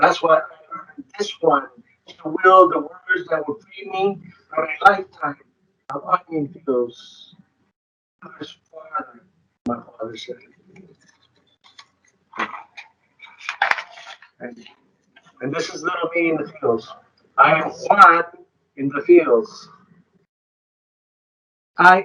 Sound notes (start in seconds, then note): 0.1 speaking distorted; 12.5 group applauding; 13.2 page rustling